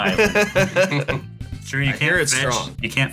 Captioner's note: laughs